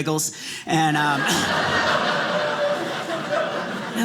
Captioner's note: audience laughing